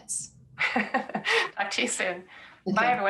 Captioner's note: laughs